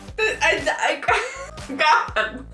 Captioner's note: trauma giggle